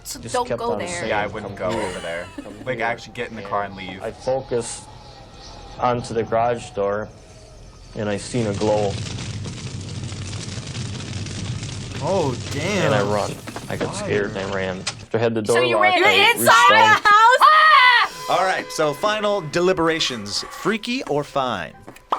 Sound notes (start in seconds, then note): 10.1 fire crackling; 17.4 screams